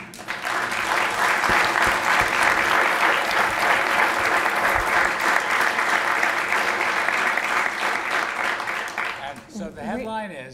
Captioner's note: applause